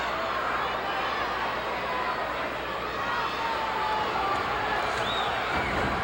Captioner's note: audience chattering continues